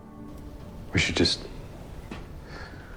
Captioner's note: voiceover